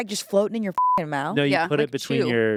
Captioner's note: beep